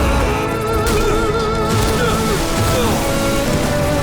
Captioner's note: groaning